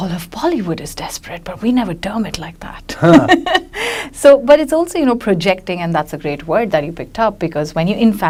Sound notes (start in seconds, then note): 3.0 laughs